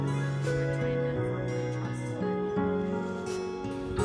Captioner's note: faintly speaking; mellow music